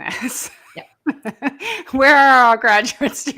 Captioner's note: laughs